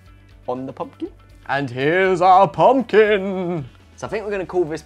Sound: spooky voice

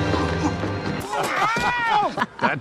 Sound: laughing

